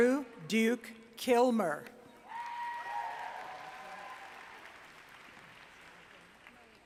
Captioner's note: applause